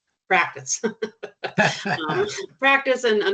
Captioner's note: chuckling